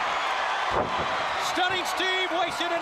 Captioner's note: crowd cheering